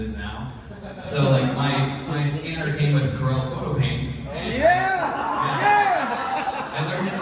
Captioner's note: cheers from audience